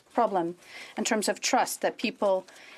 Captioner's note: speaking French